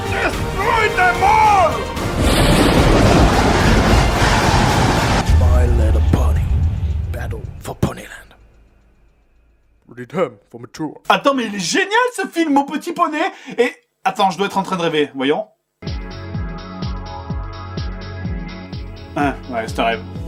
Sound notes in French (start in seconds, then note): 1.1 Musique épique; 5.2 voix off badass; 15.8 Musique sexy